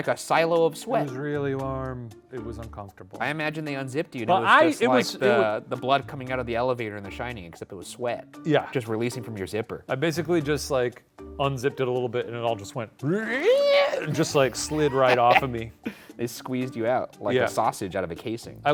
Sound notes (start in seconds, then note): 13.1 screeches